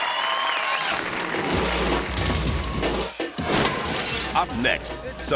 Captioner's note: audience cheering and clapping; logo whooshing